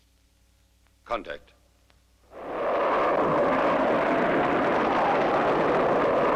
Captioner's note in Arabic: هدير محرك الصاروخ